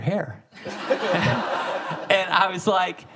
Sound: audience laughing

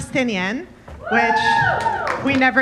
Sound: audience members cheering

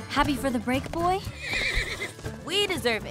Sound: whinny

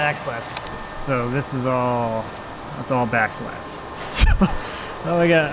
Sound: laughs

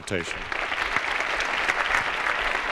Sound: applause

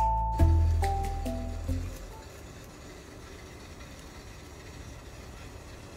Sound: beware the dishwasher machine sounds

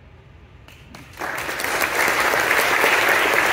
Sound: applause

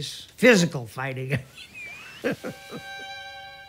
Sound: laughs

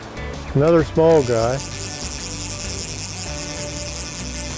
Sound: reel zipping

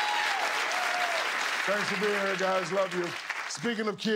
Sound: laughter and applause

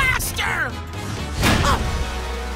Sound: grunting

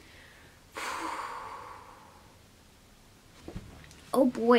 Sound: deep exhale

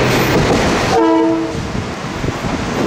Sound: horn from train on Tk 5

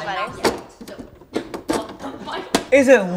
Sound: smacking

